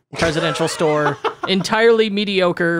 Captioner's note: laughing